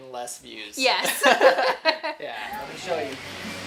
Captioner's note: laughs